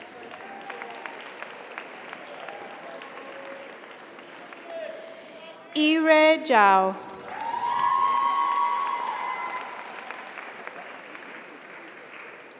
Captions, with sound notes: (audience applauds) (audience cheers) - Congratulations. (audience applauds) (audience cheers) - Yirui Zhao. (audience applauds) (audience cheers)